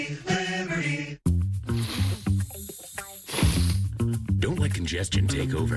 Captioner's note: congested breathing